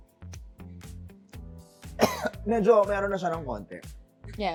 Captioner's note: coughs